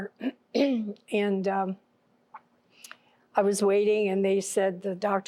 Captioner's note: clears throat